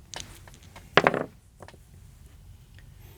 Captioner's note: dice rolling